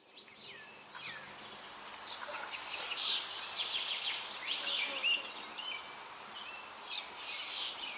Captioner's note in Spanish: sonidos de río, trinos de pájaros